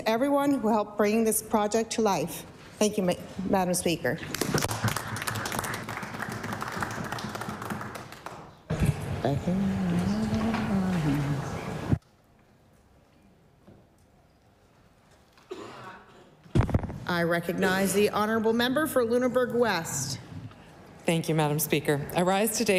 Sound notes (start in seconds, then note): 7.0 applause